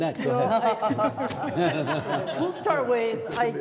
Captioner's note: all laughing